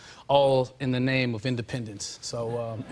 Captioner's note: laughter